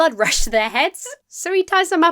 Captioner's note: hold back laughter